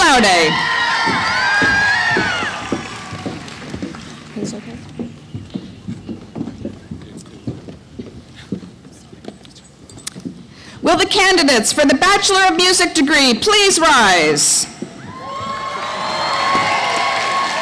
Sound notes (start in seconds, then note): 5.7 applause; 5.7 cheering